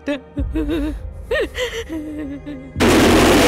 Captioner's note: Crying